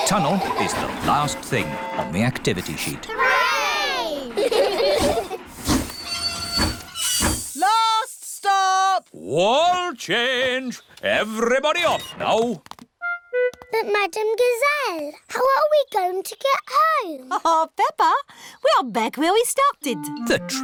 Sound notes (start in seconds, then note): 3.9 laugh; 5.3 train chugs